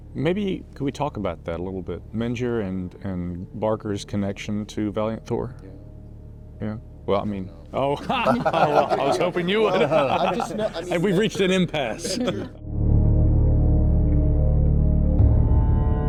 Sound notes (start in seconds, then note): 10.5 laughs; 13.0 discordant music